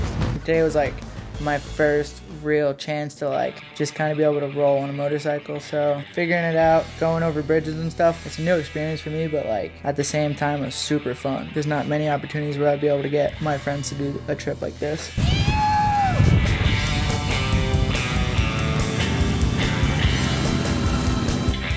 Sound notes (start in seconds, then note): 15.0 surf rock; 15.2 rebel yell